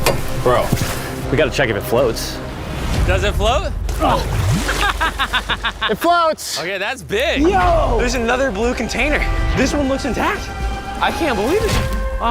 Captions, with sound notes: Bro, we gotta check if it floats. Does it float? Ah! [laughs] It floats. Ok, that's big. Yo, another blue container. This one looks intact. I can't believe it.